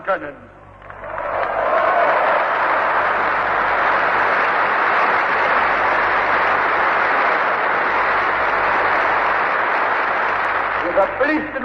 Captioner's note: applause